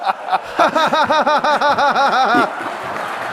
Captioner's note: laughs sarcastically